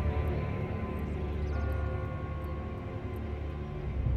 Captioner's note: bell tolls